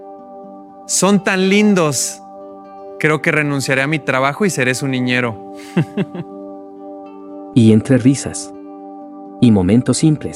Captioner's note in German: Und lacht